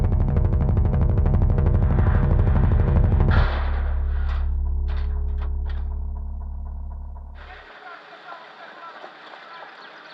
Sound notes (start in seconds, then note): 0.0 thrumming loudly; 3.3 clangs loudly; 7.4 people talking in background, birds chirping